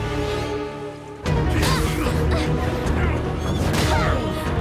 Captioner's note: punches thudding